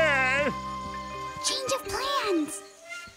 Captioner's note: whispers